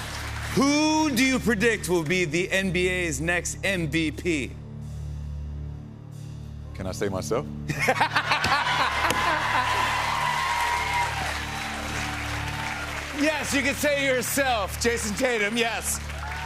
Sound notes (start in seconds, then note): 0.0 cheers and applause; 7.8 laughs; 8.6 cheers and applause